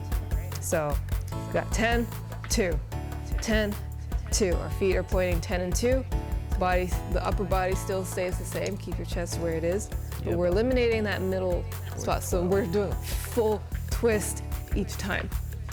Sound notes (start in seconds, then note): none